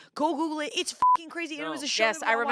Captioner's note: beep